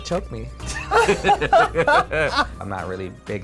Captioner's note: laughs